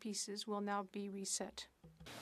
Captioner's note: speaking French